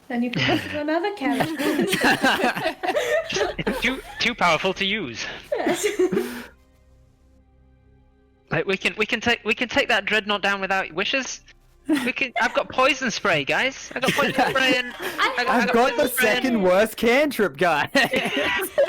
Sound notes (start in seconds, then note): 1.2 all laugh; 2.8 more giggles; 5.2 giggles; 13.9 all chaotic exclaiming; 17.8 laughs